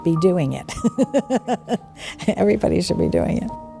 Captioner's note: laughs